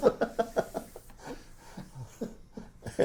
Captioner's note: laughs